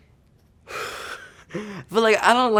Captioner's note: Javon blowing out